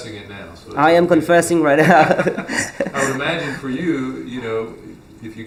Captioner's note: laughs